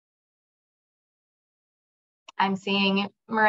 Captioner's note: silence